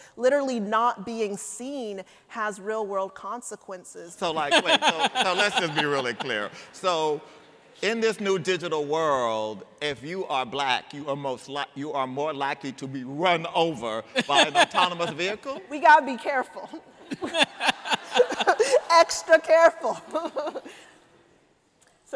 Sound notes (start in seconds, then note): 4.4 laughter; 16.9 laughter